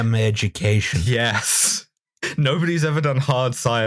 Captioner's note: laughter